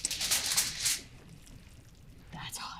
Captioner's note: poan sizzling